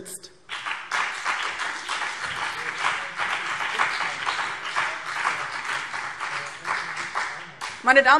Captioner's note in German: Beifall BÜNDNIS 90/DIE GRÜNEN und CDU